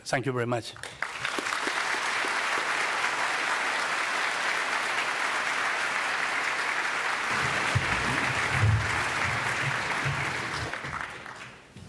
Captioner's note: applause